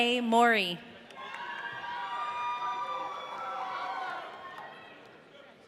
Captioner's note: audience cheering